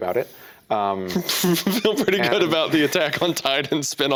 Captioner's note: laughing